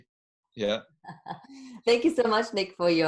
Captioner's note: laughing